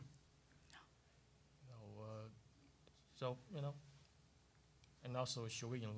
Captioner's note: whispering